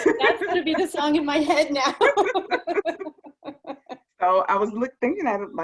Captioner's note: laughter